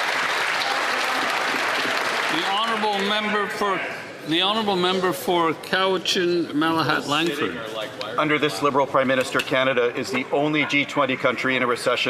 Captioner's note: some Applause